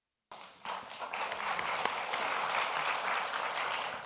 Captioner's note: audience applauds